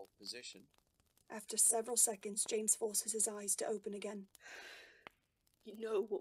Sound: James exhales

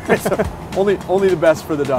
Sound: both laugh

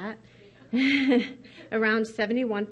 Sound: laughs

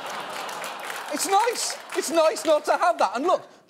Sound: audience laughing

